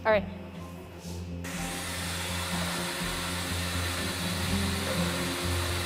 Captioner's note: industrial machine running